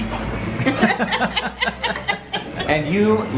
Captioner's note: all laughing